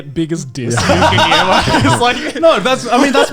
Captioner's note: laughing